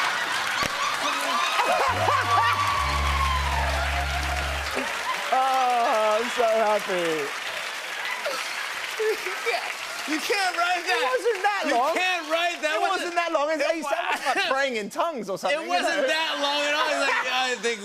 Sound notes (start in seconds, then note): 0.1 cheers and applause; 1.8 sad tuba plays; 7.6 applause